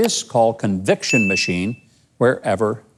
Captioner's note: bell dinging